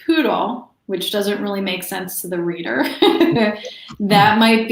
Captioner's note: laughs